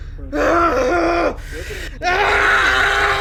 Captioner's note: yelling